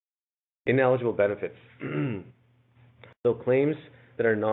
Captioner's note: clears throat